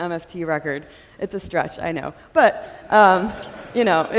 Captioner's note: audience laughing